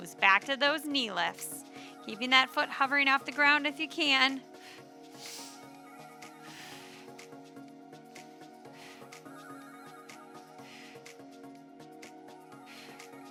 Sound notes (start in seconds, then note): 4.6 upbeat lively music; 6.4 exhaling deeply